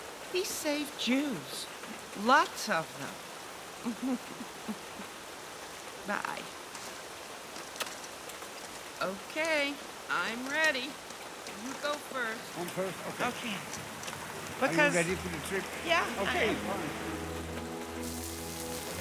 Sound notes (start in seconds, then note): 3.8 laughs; 7.8 smooch